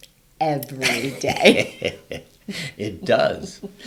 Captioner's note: both laugh